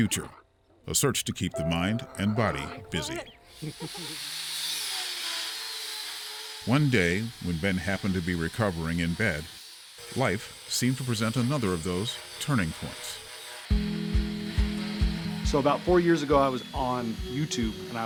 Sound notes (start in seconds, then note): 7.0 metal workshop noises; 16.2 soft upbeat music